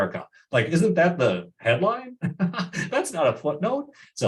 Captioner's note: laughs